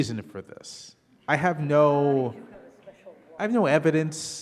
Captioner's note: speaking faintly